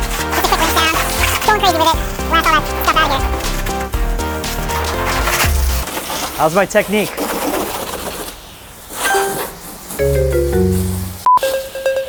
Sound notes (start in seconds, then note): 0.2 voice speeds up to silly speech; 10.0 beeping; 10.0 bell bings